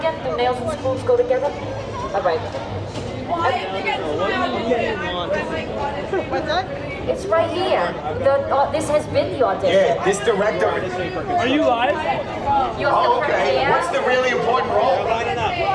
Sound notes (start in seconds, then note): 3.4 people chattering in background